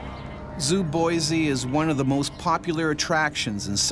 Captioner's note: voiceover